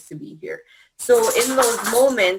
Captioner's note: clatter